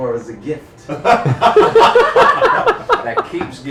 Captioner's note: laughter